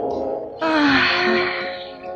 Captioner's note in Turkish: İç geçirme